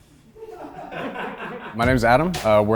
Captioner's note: crowd laughs